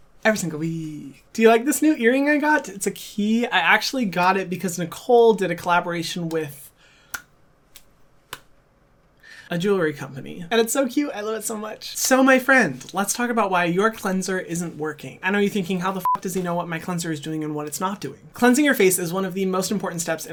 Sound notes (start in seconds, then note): 8.3 hands clapping; 16.0 beep